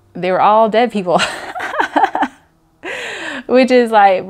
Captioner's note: laughs